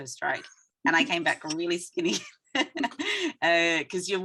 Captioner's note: laughing